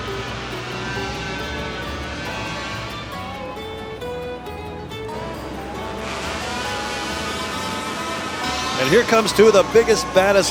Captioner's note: holiday music; chainsaws buzzing